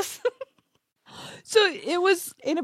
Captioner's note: laughs